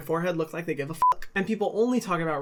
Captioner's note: beep